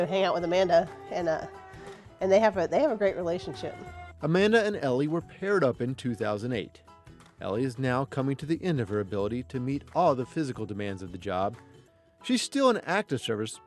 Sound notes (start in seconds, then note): 4.6 voiceover